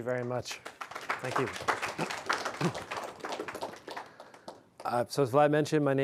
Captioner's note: audience applauding